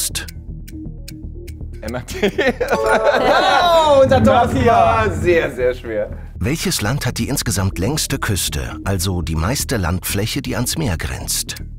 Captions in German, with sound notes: (Ticken, spannungsvolle Musik) MRT. (Lachen, Klingeln) Jo! - Das war sehr, sehr schwer.